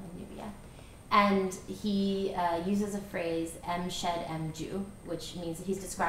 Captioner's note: non-english